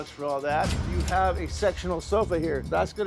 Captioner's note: cash register dings